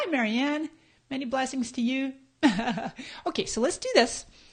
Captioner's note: laughs